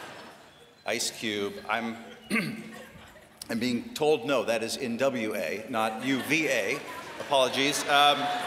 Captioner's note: laughter